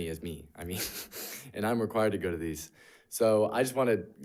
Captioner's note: chuckles